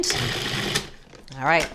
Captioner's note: food processor whirs